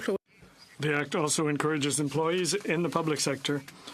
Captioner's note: speaking French